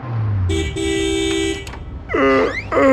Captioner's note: horn; yawn